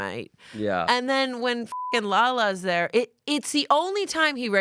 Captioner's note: beep